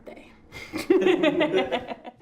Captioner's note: laughing